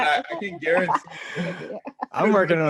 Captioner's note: laugh